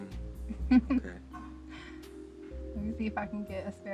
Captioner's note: laughs